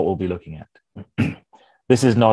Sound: clears throat

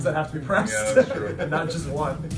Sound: laugh

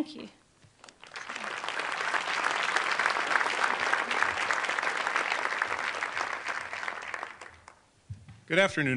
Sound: applause

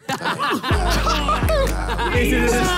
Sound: players laugh

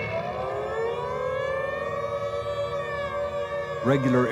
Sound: alarm blares

